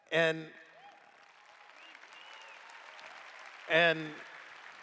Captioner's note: applause